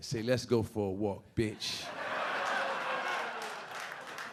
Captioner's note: audience laughing